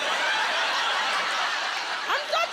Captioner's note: laughter